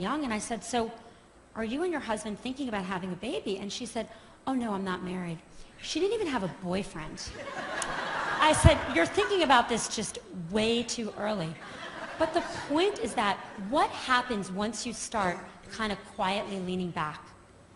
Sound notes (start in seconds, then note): 7.3 laughter